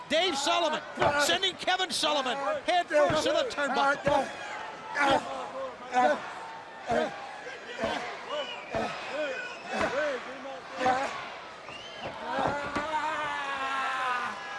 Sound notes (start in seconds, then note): 3.8 crowd chatter